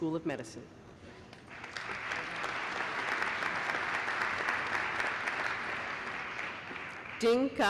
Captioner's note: applause